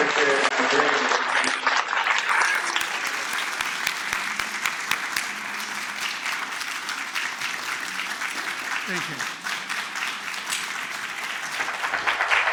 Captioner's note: applause